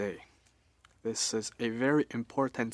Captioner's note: speaking French